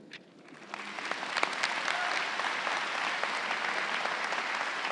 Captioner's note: crowd applauding